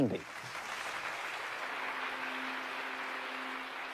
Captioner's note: applause